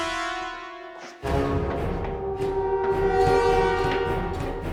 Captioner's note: ominous music; footsteps tapping